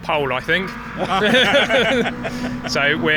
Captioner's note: laughing